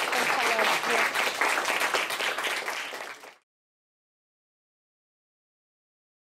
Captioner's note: applause